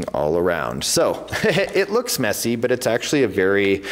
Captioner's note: laughs